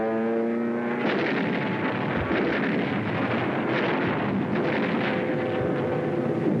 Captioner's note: explosions